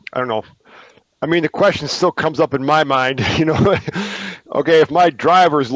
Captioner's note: laughs